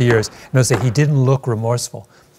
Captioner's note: gavel bans